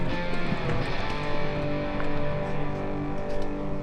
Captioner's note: water bubbles